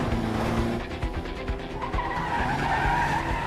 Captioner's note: tires screeching